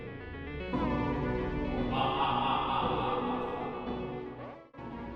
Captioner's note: spooky laughter